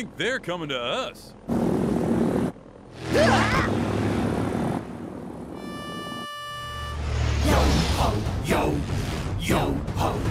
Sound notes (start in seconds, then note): 2.3 engine roars; 3.1 screams; 5.5 pitch pipe music